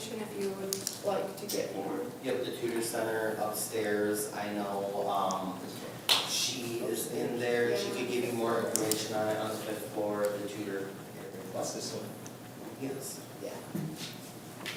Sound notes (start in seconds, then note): 11.4 talks quietly